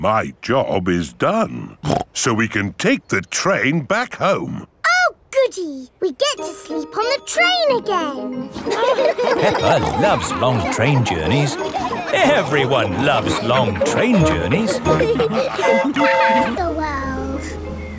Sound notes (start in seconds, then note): 8.8 laughing; 15.6 train whistle toots